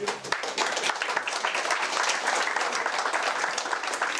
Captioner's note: clapping